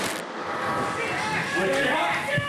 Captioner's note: flashbang explosion